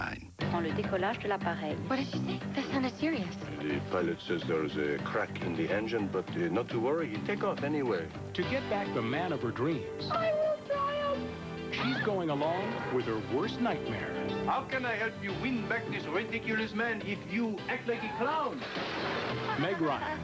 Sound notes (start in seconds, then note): 0.2 unseen woman speaking French; 10.3 sobbing; 11.4 screams Help!; 18.2 shrieks, dishes crash as she falls; 19.1 laughs